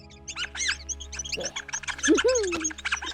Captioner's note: squeaking